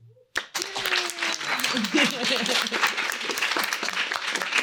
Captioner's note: applause